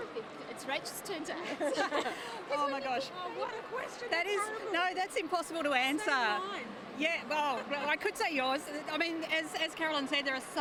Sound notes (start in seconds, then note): 1.5 everyone laughs